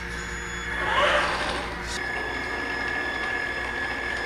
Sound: whirring

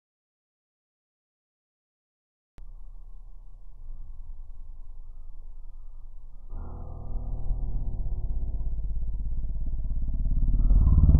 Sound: wild beast ambience

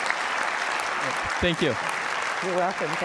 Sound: applause

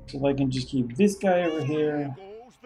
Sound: Hodge meows

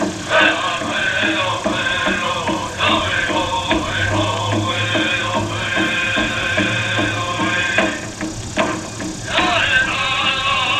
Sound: applause and cheers

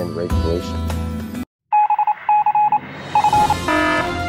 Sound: morse code; alarm

